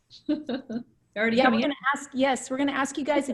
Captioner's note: laughing